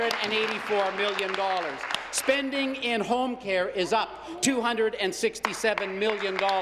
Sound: applause

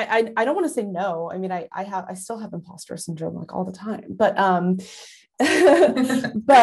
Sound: laugh

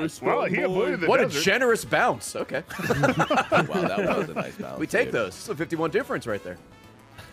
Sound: laughs

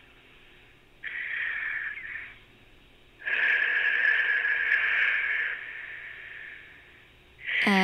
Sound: breathing/wind?

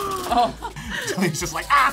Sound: laughs; gasps

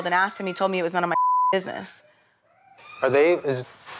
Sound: beep

